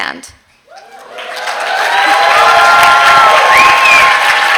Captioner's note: applause and cheers